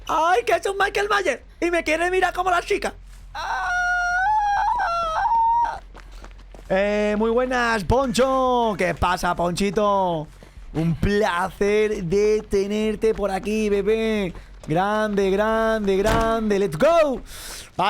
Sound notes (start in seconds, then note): 3.3 shrieks in Spanish